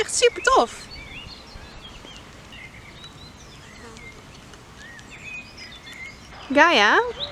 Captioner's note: nature sounds